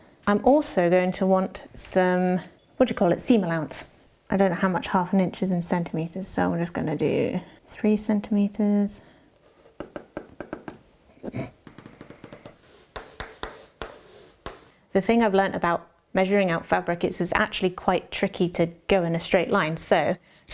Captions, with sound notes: I'm also going to want some what do you call it? Seam allowance I don't know how much half an inches in cm so I'm just going to do three cm [pencil popping over fabric noises] Pop PopPop Pop the thing I've learned about measuring out fabric it's actually quite tricky to go in a straight line so